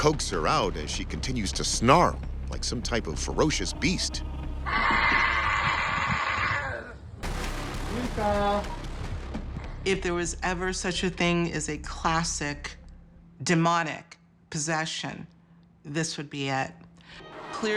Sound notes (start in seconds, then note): 3.8 snarling